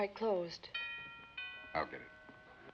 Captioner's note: doorbell ringing